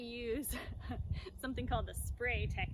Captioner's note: laughing